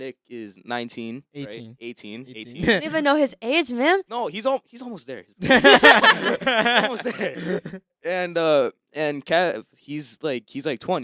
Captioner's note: laughter